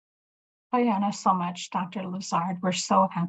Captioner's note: speaking in Native language